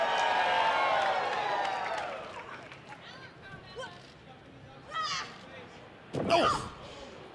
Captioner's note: cheers and applause